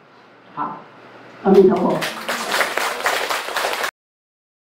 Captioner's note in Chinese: 眾人鼓掌